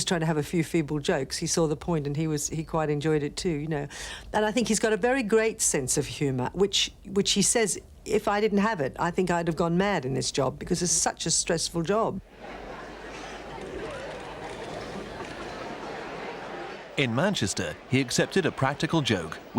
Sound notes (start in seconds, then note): 12.2 people chattering; 14.9 people laughing